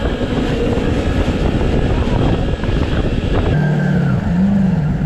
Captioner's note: jet ski roaring